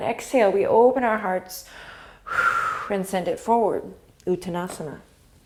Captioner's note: exhale